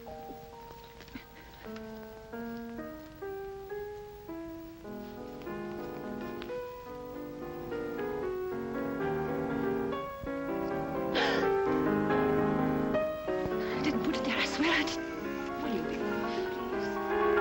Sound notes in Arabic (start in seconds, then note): 2.2 يعزف على البيانو; 11.1 تلهث بصوت عالٍ